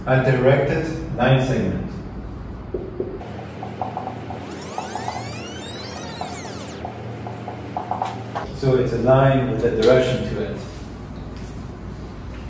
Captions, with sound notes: a directed line segment. (electronic whizzing) So it's aligned with the direction to it.